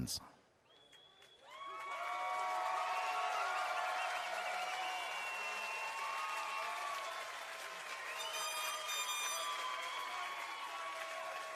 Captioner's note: cheering and Applause